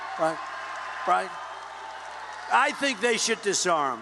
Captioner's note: cheers